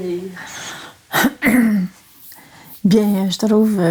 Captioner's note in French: Elle s'éclaircit la gorge